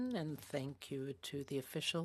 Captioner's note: speaking French